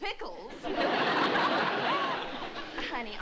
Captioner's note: laughter